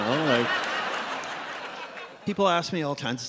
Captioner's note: audience laughs